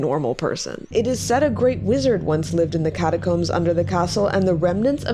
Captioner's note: tone resumes